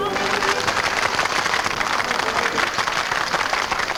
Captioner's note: patrons clap